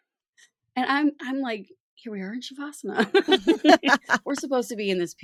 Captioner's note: shared laughter